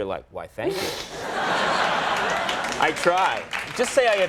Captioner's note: audience laughing